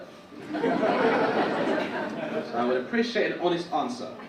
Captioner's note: audience laugh